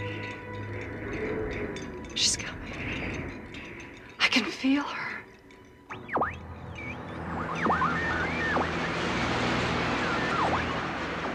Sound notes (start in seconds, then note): 5.3 berkedip statis